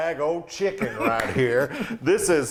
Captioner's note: laughing